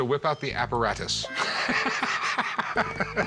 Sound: laughs

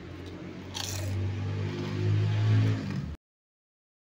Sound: crunchy

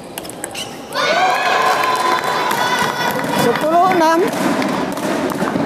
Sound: applause

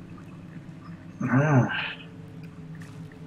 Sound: sighs

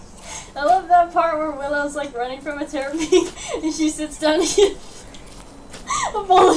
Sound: laughs

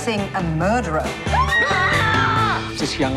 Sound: woman screaming

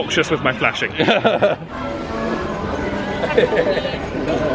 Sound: laughs

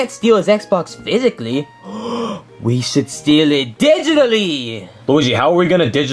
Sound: gasps

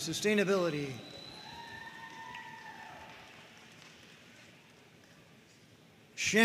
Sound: audience cheering and applauding

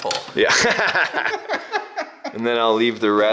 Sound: laughs

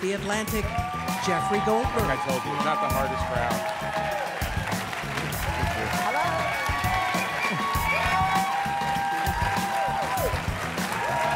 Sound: cheers & applause

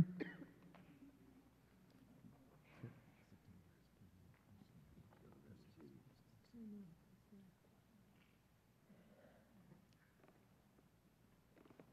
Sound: whispering

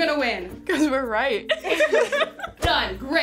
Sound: team laughs

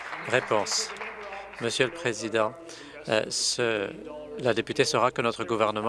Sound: applause

